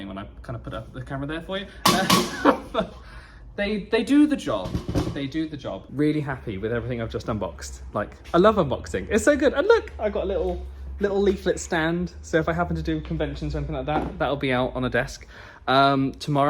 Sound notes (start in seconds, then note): 1.8 hammer pounding; 1.9 laughing